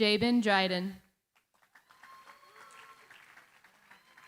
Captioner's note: cheering, applause